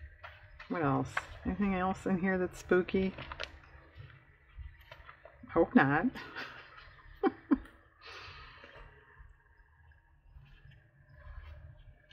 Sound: laughs

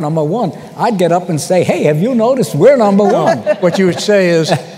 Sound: laughter

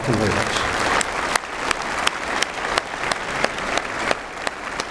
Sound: applause

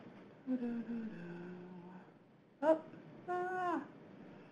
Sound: hums melody

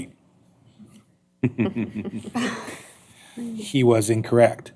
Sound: laughter

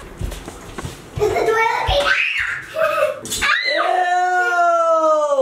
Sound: screams

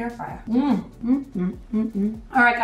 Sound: satisfied noises

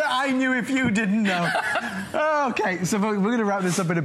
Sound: laughter

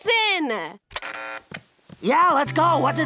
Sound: keyboard buzzes

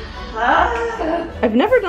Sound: yelling

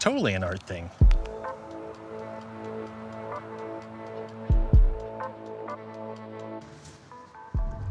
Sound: thumbwheel click

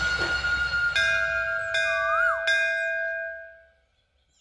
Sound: temple bells ringing

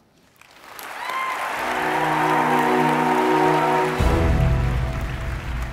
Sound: audience applause; bright music

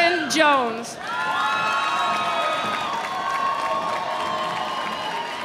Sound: audience cheering

